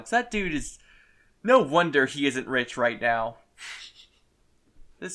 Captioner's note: quiet snickering